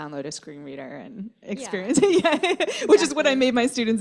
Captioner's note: laughter